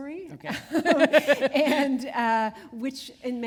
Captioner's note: laughter